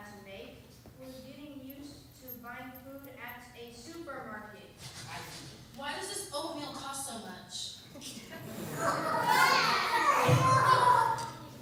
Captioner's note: laughter